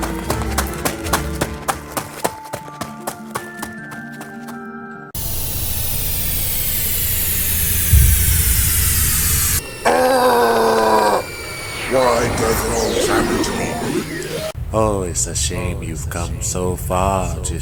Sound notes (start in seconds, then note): 0.0 feet tapping; 5.8 sci-fi screeching; 9.8 deep growling